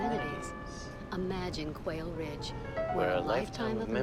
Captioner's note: voiceover